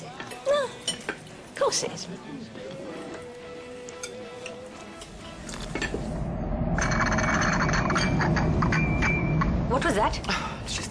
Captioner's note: tram rattles past